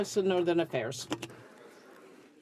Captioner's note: some Applause